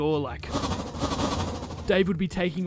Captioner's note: woosh; woosh woosh woosh